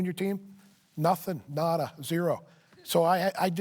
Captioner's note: none